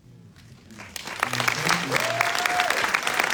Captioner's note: applause